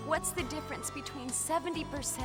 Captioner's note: none